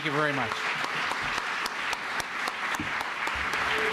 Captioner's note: applause